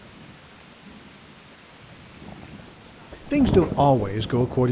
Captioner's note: rain and thunder